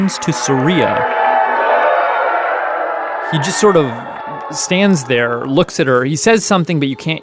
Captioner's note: crowd boos